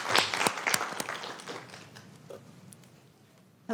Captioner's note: applause